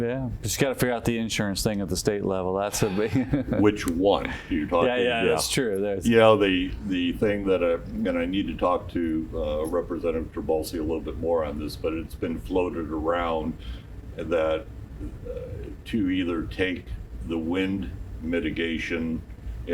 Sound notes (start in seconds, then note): 2.8 laughs